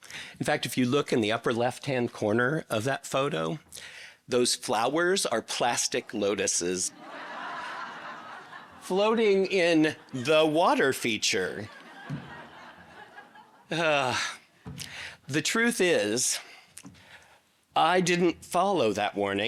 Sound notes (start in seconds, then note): 6.8 audience laughing